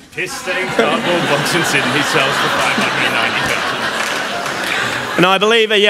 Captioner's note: laughter & Inaudible